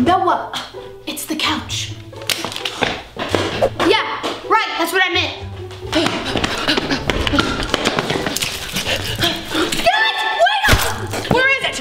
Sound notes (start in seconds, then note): 2.1 loud footsteps; 5.8 girls pant